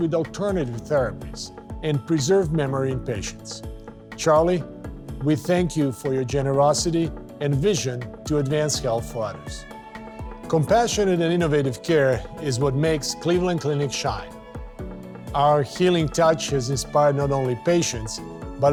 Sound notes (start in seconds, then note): none